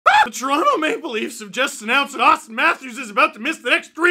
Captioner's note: scream